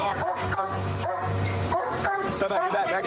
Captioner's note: barking